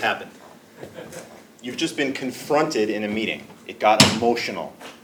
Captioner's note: laugh